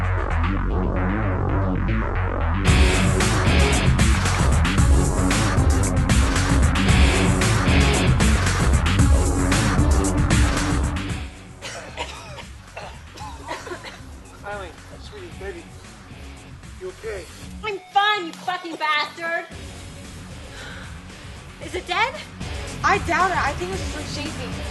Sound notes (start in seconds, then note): 8.2 coughing; 17.9 slap!